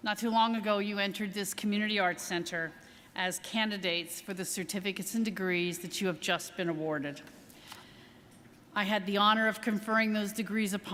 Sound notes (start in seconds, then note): none